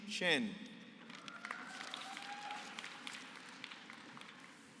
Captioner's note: applause